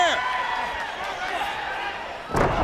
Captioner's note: crowd chatter